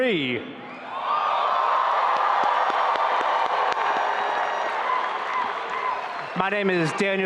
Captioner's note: audience applauding and cheering